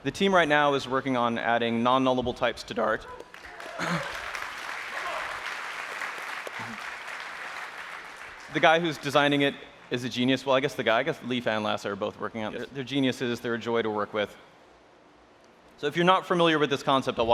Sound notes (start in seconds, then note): 3.2 applause